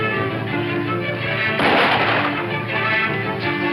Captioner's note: gunshot